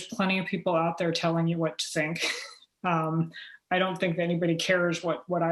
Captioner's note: chuckle